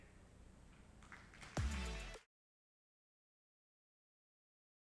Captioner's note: applause